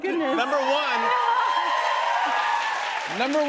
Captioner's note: cheers and applause